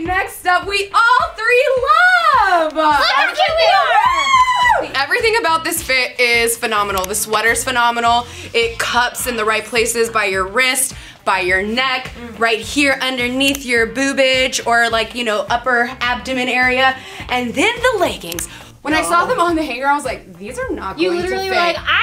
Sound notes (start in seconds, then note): 2.8 women yelling